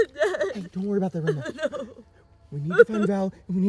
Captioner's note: sollozando